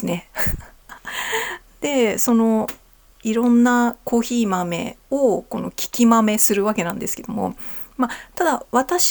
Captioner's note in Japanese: 笑い; 息をのむ音